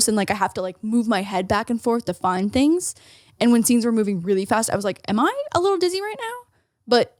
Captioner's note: none